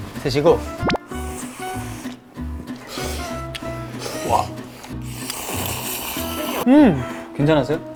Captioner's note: slurping up the ramen